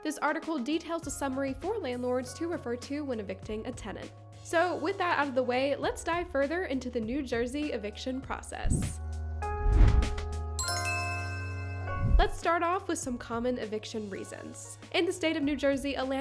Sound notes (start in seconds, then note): 9.4 upbeat music; 9.5 transition whooshing; 10.6 logo dings